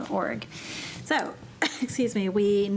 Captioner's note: coughing